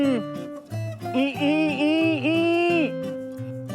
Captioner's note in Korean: 아무튼 맛있어서 내는 소리